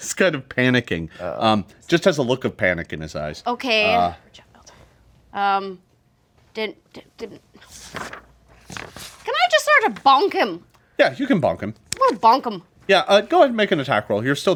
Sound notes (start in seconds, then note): 7.6 papers rustling